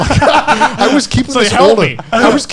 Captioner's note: all laughing